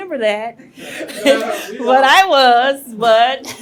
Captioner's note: all laughing